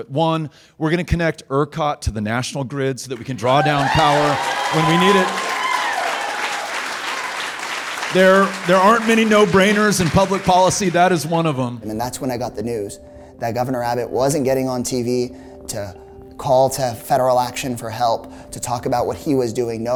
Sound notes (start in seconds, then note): 5.5 audience applauding